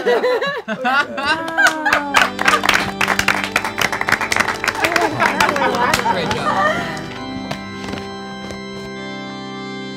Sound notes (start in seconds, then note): 1.4 clapping; 2.4 organs playing